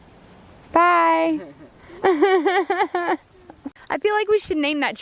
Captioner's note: laughing